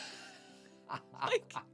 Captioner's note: laughs